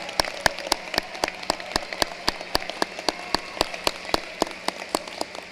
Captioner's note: cheering and applause